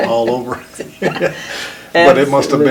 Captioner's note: both laughing